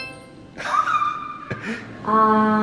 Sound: squealing

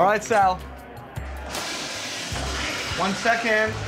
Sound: toilet flushes

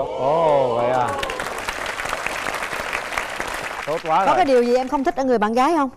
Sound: applause

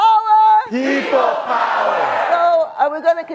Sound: everyone yells "people power!"

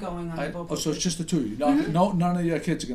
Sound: voiceover

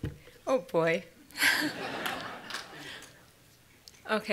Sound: audience Laughter

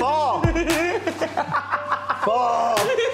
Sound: Tana laughing

